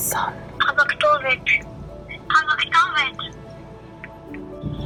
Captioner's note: boy on phone